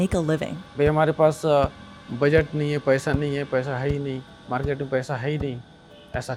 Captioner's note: speaking foreign language